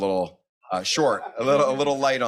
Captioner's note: laughs; audience laughs